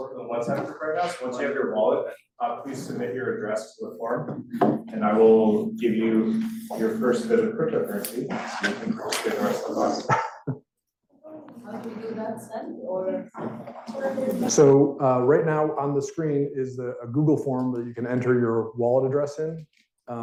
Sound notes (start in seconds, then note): 9.0 student talking faintly